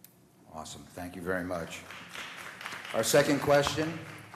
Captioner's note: applause